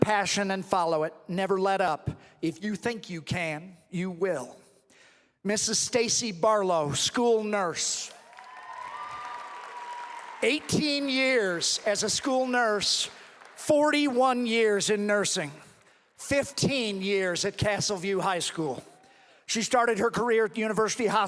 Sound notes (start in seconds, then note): 11.3 cheering and applause